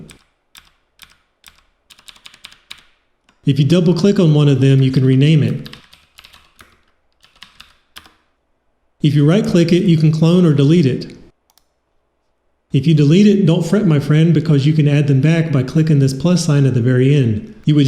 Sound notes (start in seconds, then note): 0.5 The sound of MX Cherry Blues clicking; 7.1 The sound of MX Cherry Blues clicking